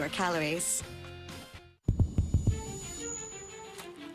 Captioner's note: microphone feedback